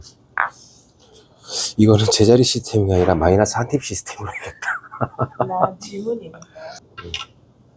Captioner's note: laughs